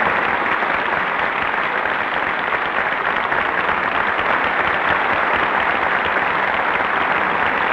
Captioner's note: applause